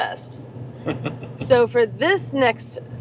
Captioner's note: laughing